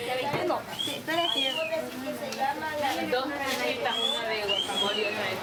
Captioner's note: passer-by wolf-whistling